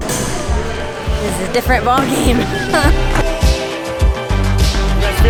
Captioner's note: laughs